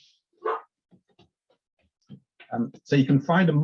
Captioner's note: dog barks